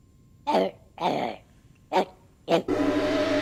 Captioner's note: dog growling